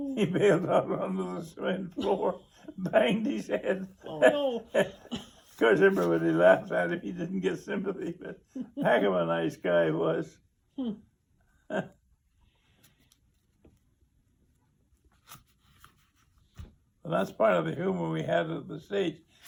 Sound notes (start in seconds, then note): 5.7 laughs; 11.6 chuckles